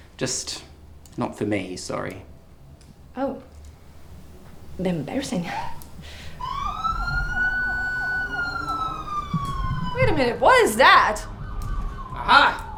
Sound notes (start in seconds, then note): 5.6 FX police siren